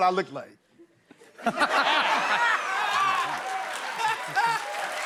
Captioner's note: laughter